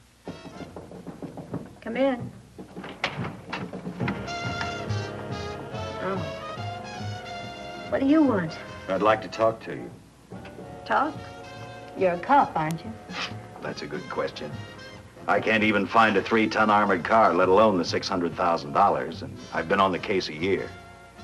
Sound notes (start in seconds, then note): 0.2 knocking on door; 2.6 door opens; 4.2 faint jazz music